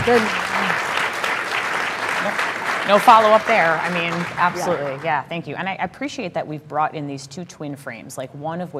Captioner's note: applause